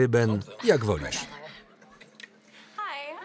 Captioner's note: laughs